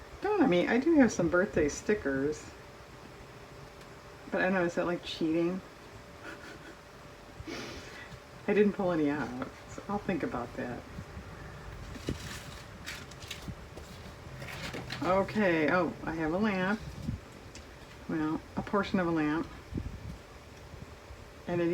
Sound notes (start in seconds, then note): 6.2 laughs